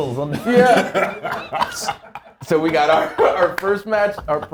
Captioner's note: laugh